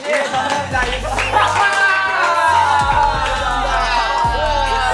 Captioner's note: excited